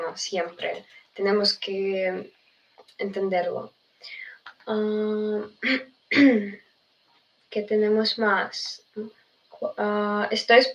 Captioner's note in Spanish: carraspeo